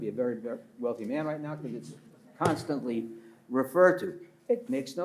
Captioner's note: pats table